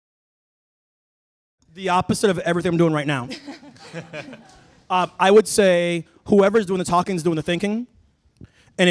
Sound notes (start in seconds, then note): 3.2 laughter